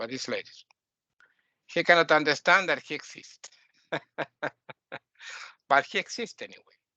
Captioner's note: laughing